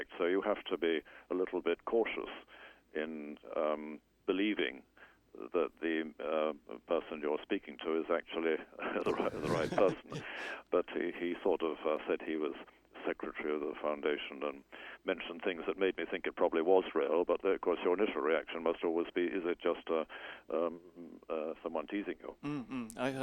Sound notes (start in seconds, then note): 9.0 laughs